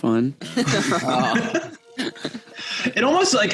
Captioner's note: laughter